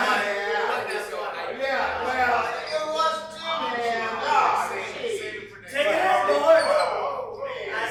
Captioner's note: laughing, yelling